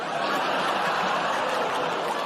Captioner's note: laughter; audience groans